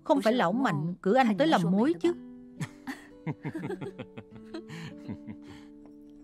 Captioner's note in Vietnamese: Tiếng cười